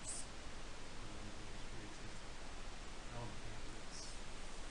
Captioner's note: man speaking